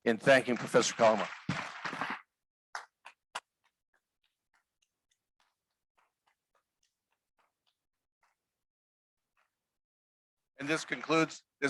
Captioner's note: applause